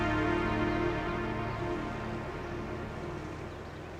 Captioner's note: birds chirping